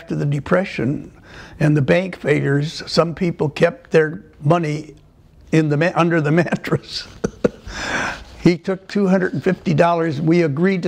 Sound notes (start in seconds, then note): 7.0 laughter